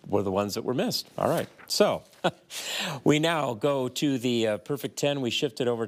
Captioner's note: chuckles